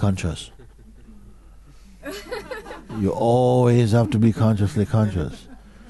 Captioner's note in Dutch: gelach